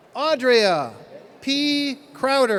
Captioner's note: none